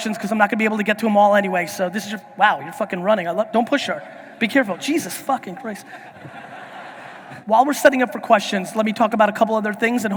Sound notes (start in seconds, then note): 6.0 audience laughing